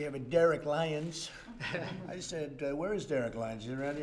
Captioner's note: laughter